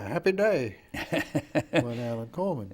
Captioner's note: laughing